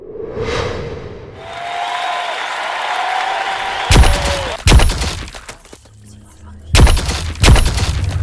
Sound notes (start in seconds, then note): 1.3 audience cheering and applauding; 3.9 gun blaring